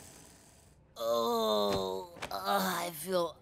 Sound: groaning

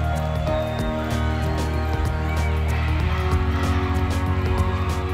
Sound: team cheering

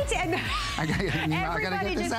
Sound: laughter

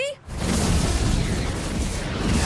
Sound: flash electricity whirlwind

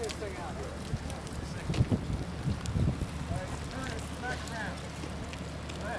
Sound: wind noise

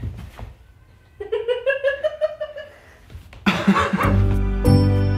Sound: laughs

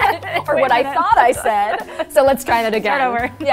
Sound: laughs

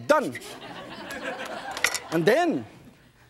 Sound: audience laughs

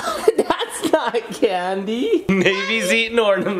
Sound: laughing

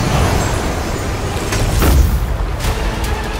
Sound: thud

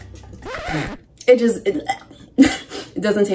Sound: retches

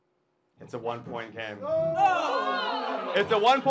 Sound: audience gasps

